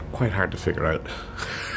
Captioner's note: laughs